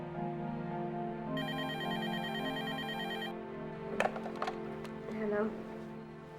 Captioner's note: telephone ringing